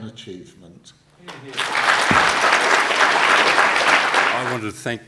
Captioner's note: attendees applauding